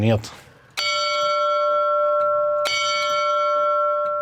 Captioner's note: short, rather high-pitched bell strikes